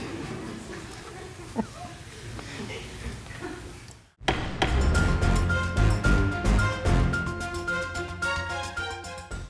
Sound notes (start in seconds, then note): 0.6 laughter; 3.0 chuckles